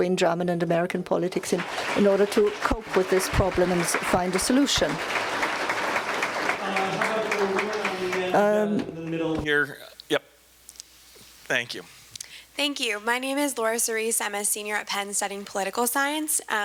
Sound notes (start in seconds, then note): 5.3 applause; 12.2 voiceover